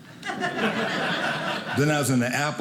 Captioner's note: audience laughing